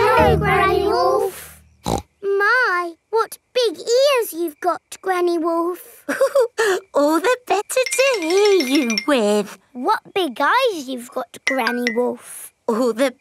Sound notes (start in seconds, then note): 1.8 snorts; 6.1 chuckles